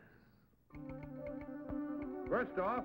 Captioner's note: telegraph clicking; tense music